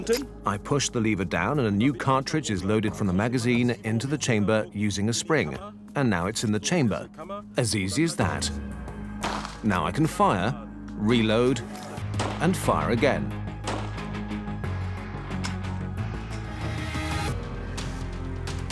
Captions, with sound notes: (dubbed in English) I push the . A new cartridge is loaded using. And now it's in the chamber. As easy as that. Now I can fire, reload, and fir.